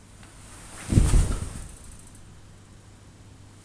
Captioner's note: thump